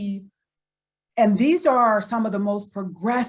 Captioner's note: none